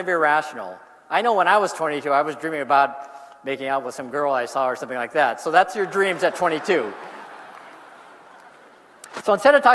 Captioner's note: applause